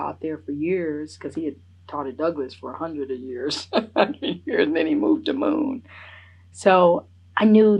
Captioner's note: laughs